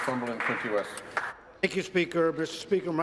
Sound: applause

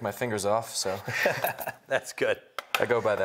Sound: laughs

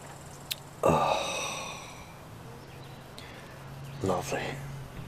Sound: big sigh

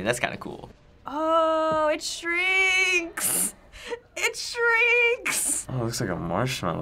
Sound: giggling

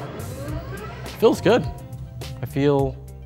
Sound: voiceover

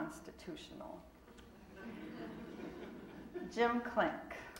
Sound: audience laughing

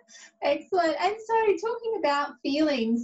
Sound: laughs

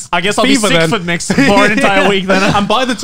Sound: laughing

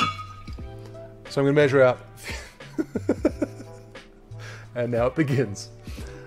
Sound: laughing

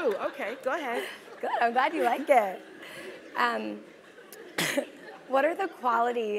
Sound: laugh; cough

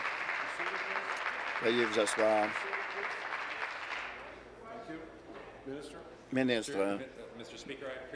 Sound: applause

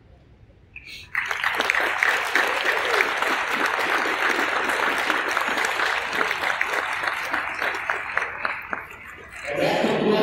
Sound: applause from crowd

